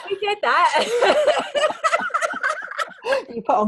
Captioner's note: laughing